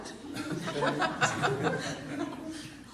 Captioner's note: laughter